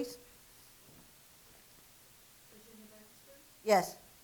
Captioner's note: soft response